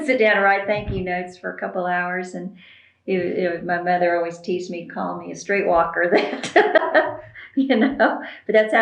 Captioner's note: laughs